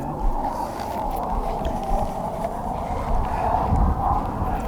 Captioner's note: wind whistling